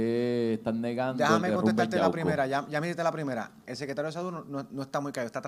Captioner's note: speaks in foreign language